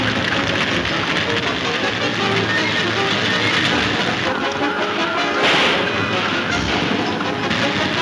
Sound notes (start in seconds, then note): 5.2 gun firing